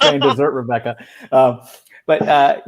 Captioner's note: laughing